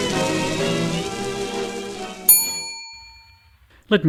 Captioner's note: bell ring